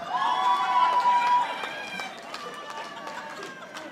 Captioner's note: audience applauding